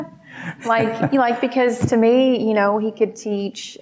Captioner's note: laughing